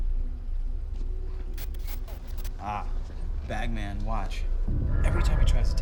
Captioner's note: static crackles